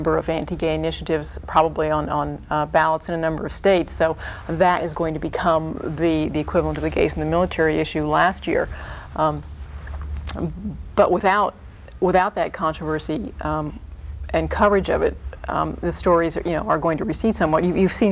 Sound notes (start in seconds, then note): none